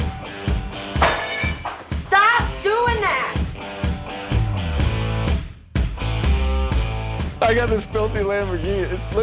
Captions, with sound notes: (glass breaking) Stop doing that! - I got this filthy Lamborghini,